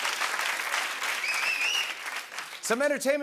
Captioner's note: applause